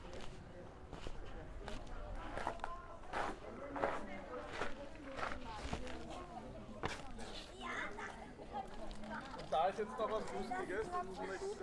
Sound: background chatter

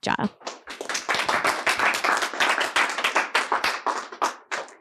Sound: applause

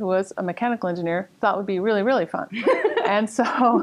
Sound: laughter

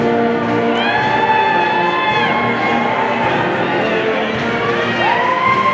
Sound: audience cheering

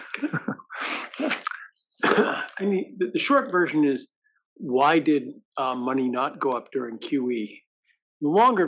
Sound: laugh

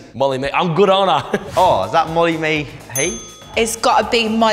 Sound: correct bell

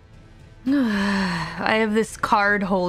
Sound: sigh

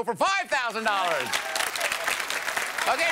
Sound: applause

